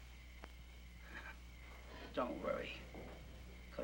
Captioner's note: chuckles